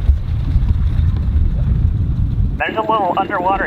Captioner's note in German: Wind weht, während der Motor im Leerlauf läuft